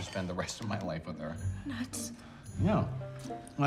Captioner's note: breathlessly